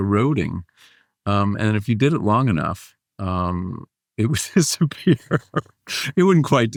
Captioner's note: laughs